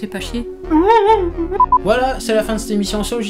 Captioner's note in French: Pleurs de désespoirs